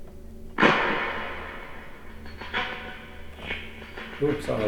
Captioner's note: random clattering